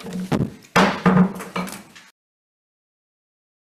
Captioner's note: gavel taps